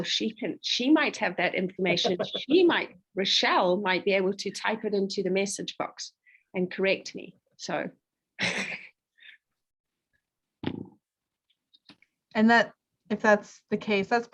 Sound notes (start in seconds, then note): 2.0 laughs; 8.4 chuckling